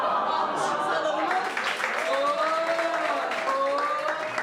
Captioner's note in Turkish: Gülüşmeler